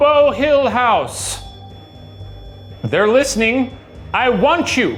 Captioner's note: REM-Pod beeping